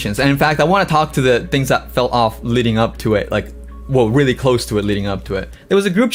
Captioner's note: none